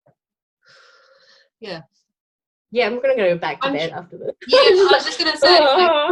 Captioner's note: laughing